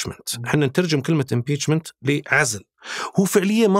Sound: in Arabic

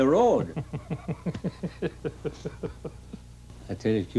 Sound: man laughing

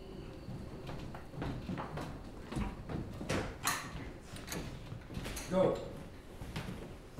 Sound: footsteps

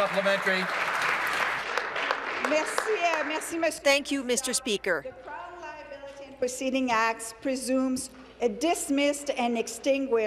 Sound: applause

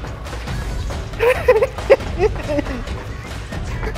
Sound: sobbing

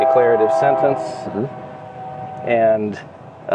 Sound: train whistle blowing

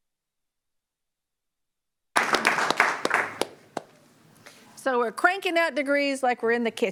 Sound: applause

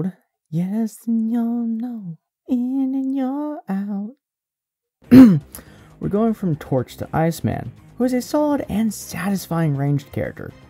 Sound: ahem

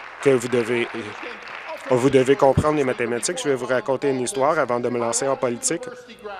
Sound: applause

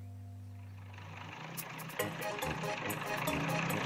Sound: motor rumbling

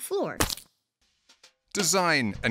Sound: splat

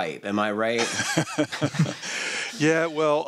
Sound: laughter

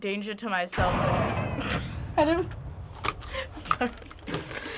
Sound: boom!; snickers

